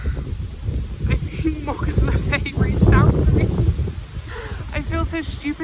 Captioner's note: laughing